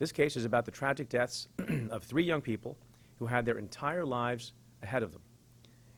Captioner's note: clears throat